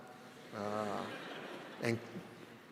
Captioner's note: audience laughs